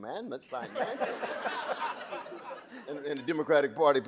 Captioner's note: audience laughing